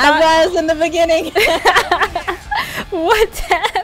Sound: both laugh; laughing

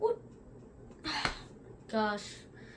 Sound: sigh

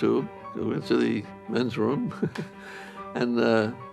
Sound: chuckles

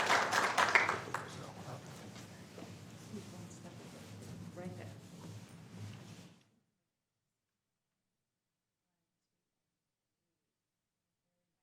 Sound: applause

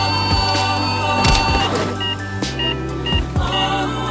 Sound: beeping

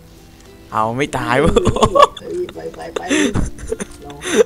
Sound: laughing

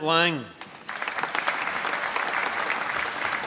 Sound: applause

